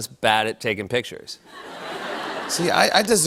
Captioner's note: laughter